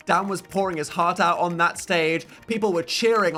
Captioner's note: none